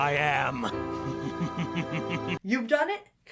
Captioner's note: Shadow laughs broodingly